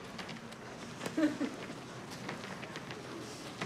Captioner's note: chuckles